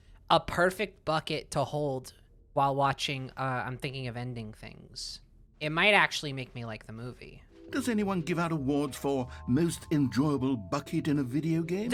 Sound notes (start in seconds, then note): none